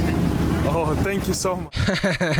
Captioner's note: speaking in Ukranian